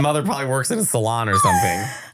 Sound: laughing

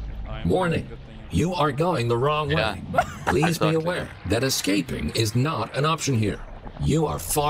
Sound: laughing

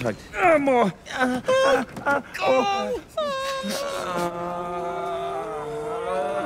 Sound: both moaning

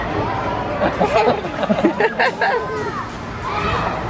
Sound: laughs

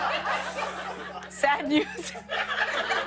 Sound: laughter

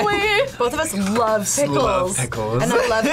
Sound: laughs

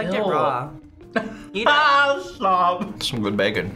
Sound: laughs

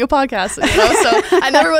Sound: laughs

